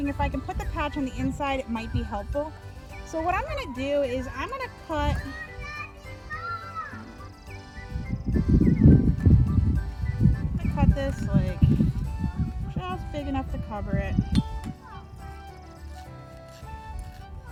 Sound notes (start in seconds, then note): 5.4 yelling; 7.4 upbeat music; 14.5 upbeat music